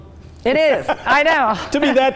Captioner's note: laughs